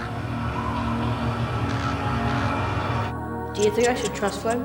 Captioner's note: wind howling